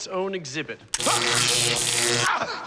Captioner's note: zapping, screaming